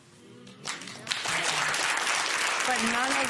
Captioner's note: applause